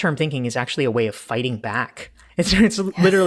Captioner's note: laughing